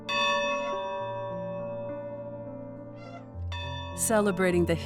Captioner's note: bell ringing